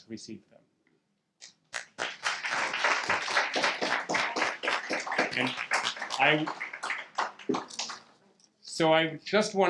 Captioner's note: audience clapping